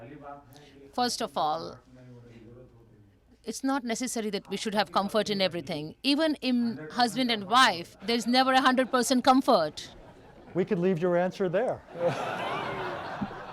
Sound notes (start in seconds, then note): 0.6 through translator; 9.8 laughter; 11.9 laughter